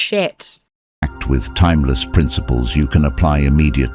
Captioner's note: AI Voice